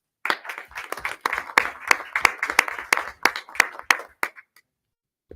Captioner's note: people clapping